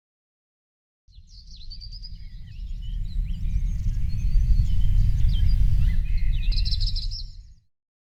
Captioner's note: birds chirping